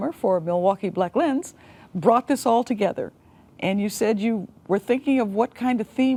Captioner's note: none